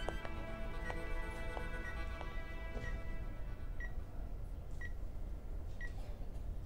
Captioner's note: Beeping sound